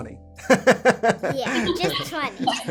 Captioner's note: laughs loudly